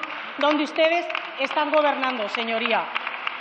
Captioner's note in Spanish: Aplausos